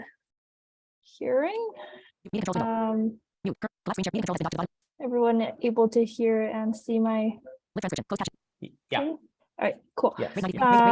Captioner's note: screen reader speaks rapidly in the background